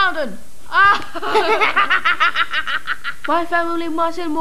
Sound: laughs

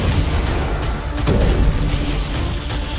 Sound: whooshing sound

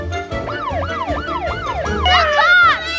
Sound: toy police siren wails

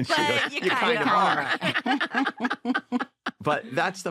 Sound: laughter

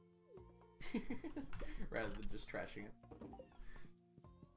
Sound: laughs

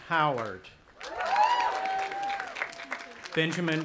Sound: audience applauding and cheering

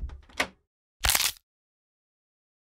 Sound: crunch

